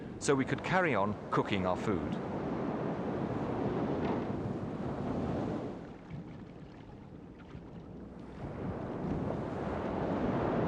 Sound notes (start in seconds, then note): 3.0 wind blowing; 7.4 water sploshing